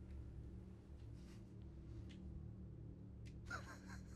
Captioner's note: chuckles